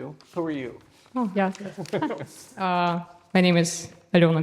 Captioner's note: both chuckling